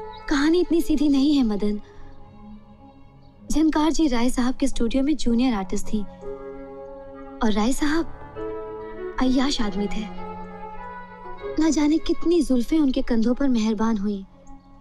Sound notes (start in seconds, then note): none